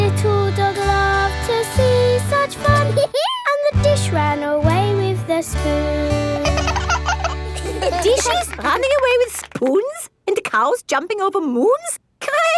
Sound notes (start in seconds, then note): 2.9 dog laughs; 6.4 both laugh